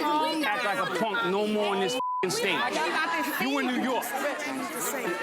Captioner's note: screaming and arguing; beep